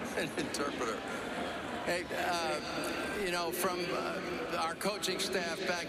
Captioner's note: laughter